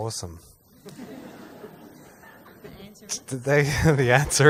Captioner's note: laughs